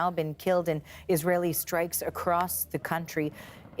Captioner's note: gunfire